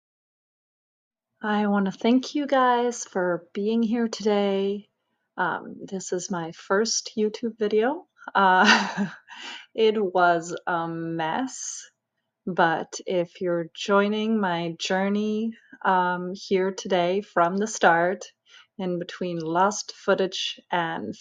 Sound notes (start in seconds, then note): 8.6 nervious laugh